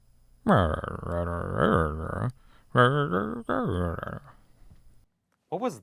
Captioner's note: mumbling